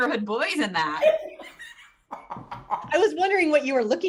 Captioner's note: laughter